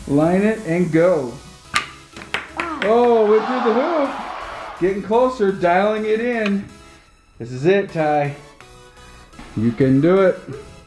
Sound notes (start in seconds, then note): 2.1 ball clacks; 2.7 disappointed crowd